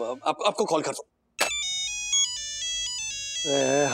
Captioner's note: phone ringing